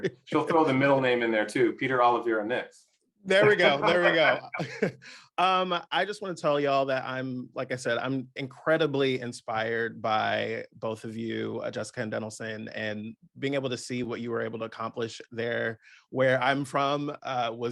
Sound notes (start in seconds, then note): 3.4 chuckling